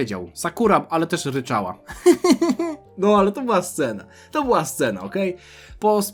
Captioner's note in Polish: śmiech